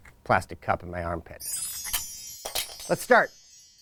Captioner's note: chimes ringing